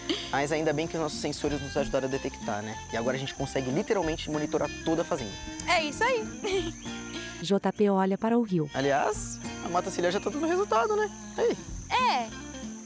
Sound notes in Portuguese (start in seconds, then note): 6.5 Pássaros